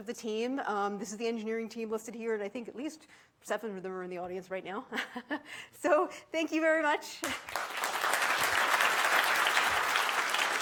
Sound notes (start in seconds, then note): 4.7 chuckles; 7.2 audience applauds